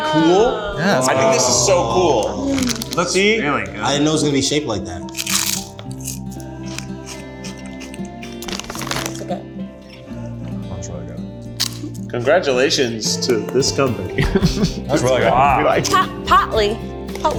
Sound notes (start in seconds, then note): 5.0 chip crunching; 5.1 ethereal music; 11.4 crunches